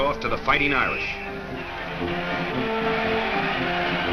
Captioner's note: whistle blows; crowd cheering